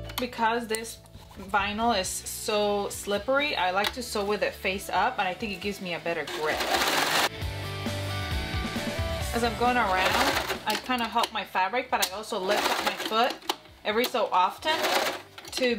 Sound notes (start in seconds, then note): 6.2 machine whirring; 6.7 upbeat music